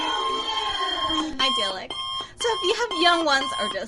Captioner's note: ringing breaks into an analog alarm clock ringing